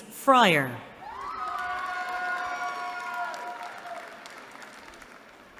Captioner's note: cheering